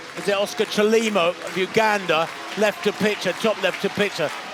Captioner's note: applause